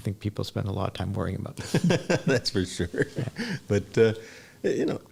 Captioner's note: laughs